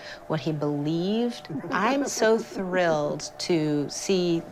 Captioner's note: laughs